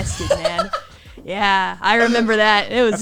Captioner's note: laughs